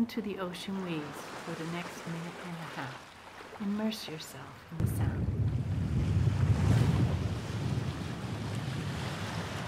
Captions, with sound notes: to the ocean waves for the next minute and a half. Immerse yourself in the sound. (wind blowing)